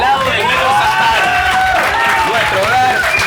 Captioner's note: applause